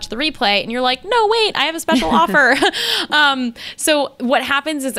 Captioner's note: laughs